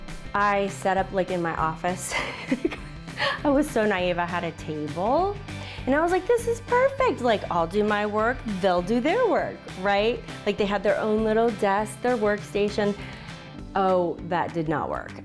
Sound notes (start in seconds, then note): 2.0 laughs